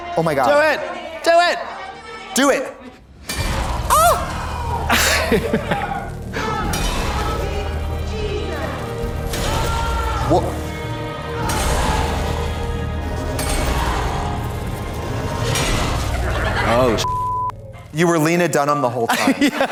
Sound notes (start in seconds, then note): 3.3 glass shatters; 11.4 glass crunches; 13.6 tense music; 17.0 beep; 19.0 audience laughs